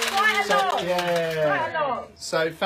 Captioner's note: coins rattling